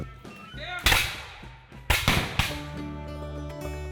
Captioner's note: gunfire